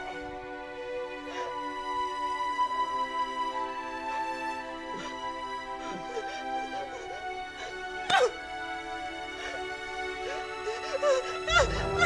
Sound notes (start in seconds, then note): 5.7 Tara cries